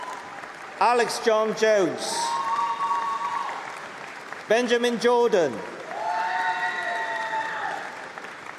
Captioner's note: applause